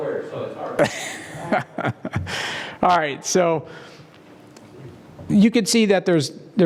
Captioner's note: laugh